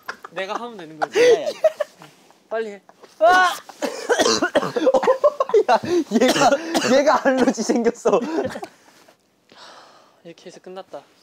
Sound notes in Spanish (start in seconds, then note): 3.6 Tragando mal; 4.4 Jajaja; 6.1 Argh